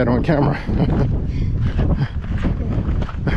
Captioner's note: laughing